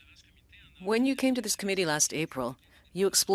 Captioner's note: speaking French